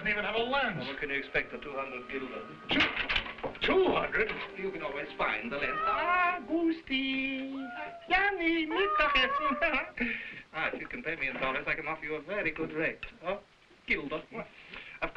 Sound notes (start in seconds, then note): 7.0 cats meowing; 9.3 Burgomil speaking foreign language